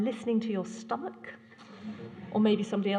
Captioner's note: laughter